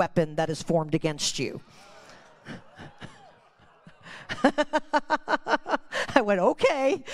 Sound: congregation exclaiming

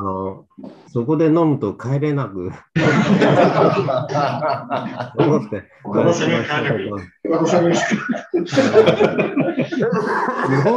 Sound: laughs

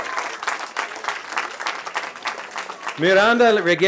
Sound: cheering

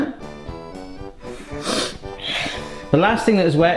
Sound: sniffs

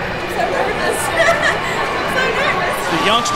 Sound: laughing; voiceover

